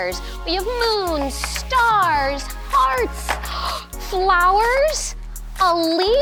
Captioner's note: gasps